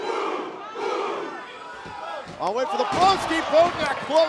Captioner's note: fans chanting